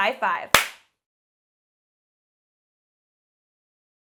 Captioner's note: claps hands